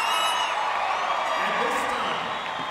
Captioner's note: applause